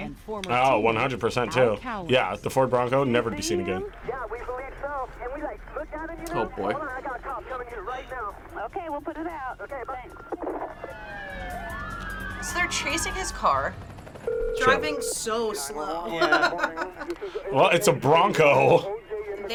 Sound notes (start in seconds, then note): 11.6 sirens beeping; 14.0 phone ringing; 16.0 laughs